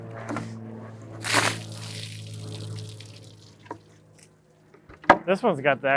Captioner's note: plane flying overhead; water splashes